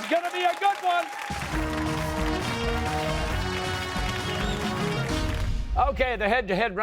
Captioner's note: cheers and applause